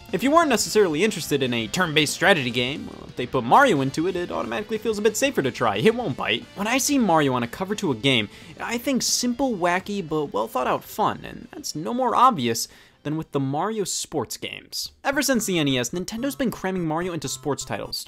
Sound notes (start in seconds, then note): none